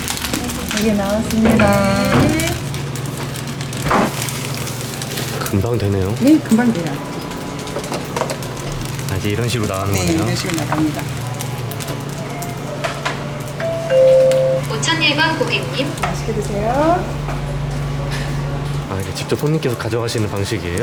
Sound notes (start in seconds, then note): 13.5 food call alarm